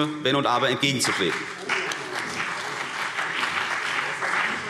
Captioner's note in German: Beifall